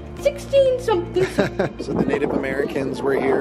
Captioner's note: laughs